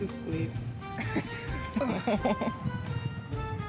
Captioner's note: laughing